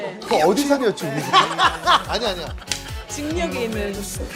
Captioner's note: hahahaha